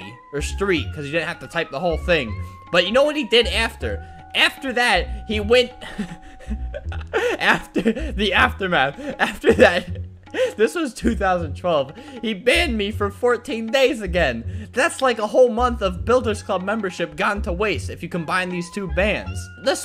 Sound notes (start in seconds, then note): 5.8 laughs